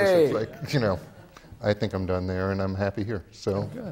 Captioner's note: laughs